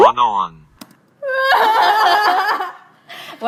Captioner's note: laughing unconciously